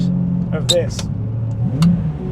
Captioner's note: gear stick clicks; engine revving